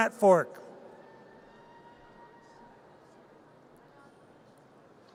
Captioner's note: audience cheers